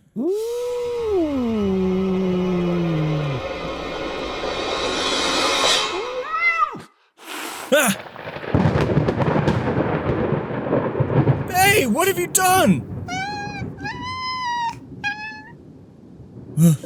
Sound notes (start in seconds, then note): 7.2 yowl, hiss